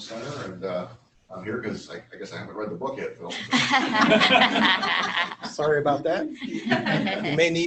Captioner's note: laughter